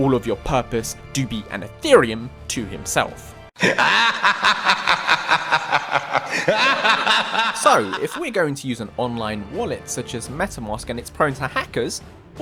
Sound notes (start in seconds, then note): 3.6 evil laugh meme